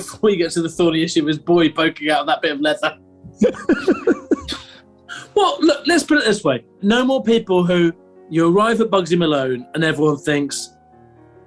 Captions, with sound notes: Before you get to the thorny issue of his boy poking out of that bit of leather! [GIGGLING] Well, look, let's put it this way: No more people who... ...you arrive at Bugsy Malone, and everyone thinks...